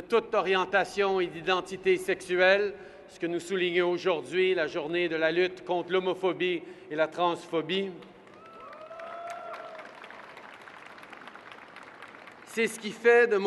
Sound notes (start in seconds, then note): 8.0 applause